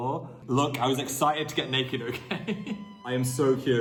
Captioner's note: laughs